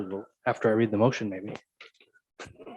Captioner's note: laughing